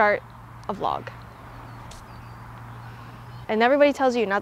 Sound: birds chirping

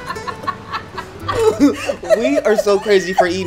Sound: guitar music; people laugh

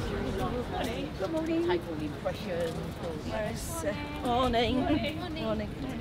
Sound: people greeting each other

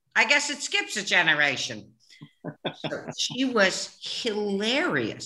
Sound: imitating mother; laughing

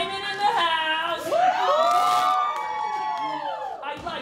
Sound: audience cheering

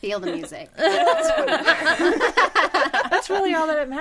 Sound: all laughing

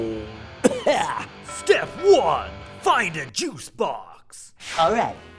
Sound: cough

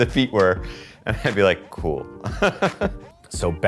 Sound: laughs

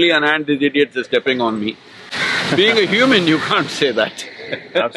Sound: laughs

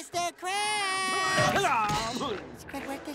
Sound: clanking; groaning

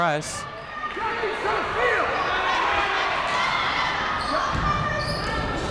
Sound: people shouting in the crowd

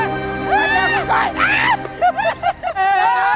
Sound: screams

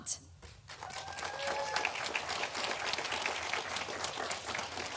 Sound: audience applauding

